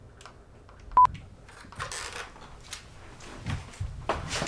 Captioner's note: beeping